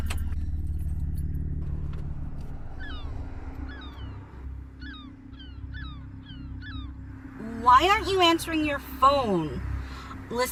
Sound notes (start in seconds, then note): 3.6 gulls squawking